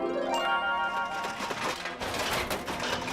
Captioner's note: metal clanging